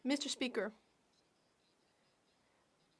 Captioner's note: speaking French